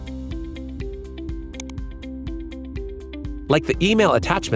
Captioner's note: mouse clicking